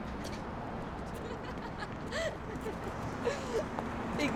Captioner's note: Bea laughing